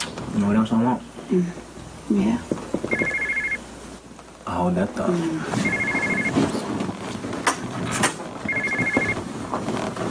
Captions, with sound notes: Know what else I want? (phone rings) Hold that thought.